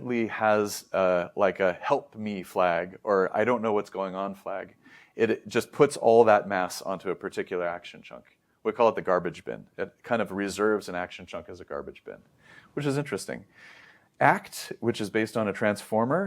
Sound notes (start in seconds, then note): 13.5 inhales deeply